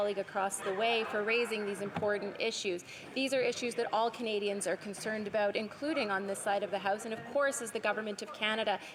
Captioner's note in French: voix de l'interprète